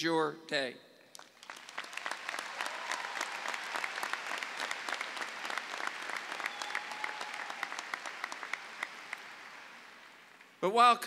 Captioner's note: clapping